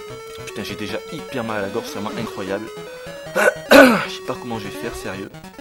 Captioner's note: clears his throat